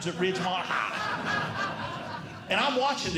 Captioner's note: audience Laughing